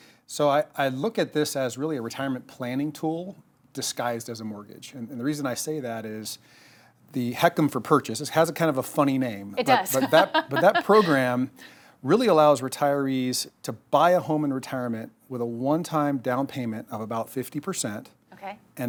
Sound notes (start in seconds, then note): 9.7 laughing